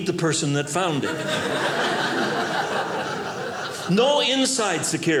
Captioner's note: audience laughing